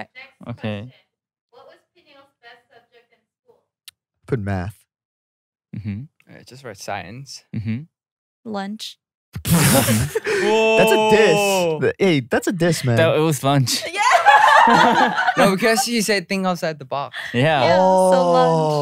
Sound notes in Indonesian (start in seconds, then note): 9.4 tertawa; 13.9 tertawa